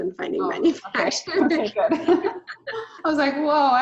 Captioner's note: laughing